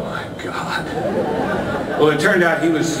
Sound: more audience laughter

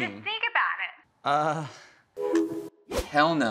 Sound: phone call ends

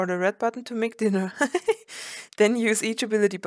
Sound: giggles

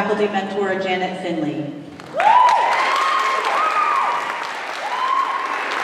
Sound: applause

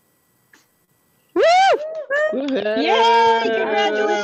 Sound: cheering

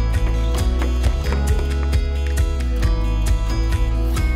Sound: approaching footsteps

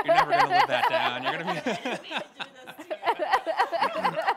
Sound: all laughing

